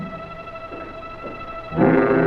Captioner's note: footsteps clacking; suspenseful music